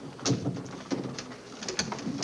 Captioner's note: door shuts